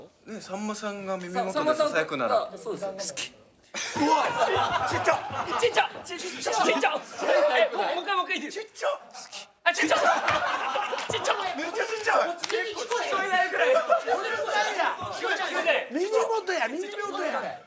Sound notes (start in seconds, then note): 3.4 whispers; 9.4 whispers; 9.8 laughter